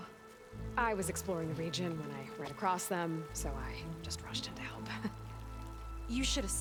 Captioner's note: laugh